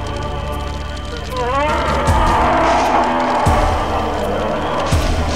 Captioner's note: roar